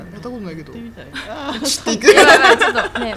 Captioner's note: laugh